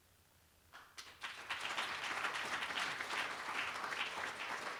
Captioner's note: applause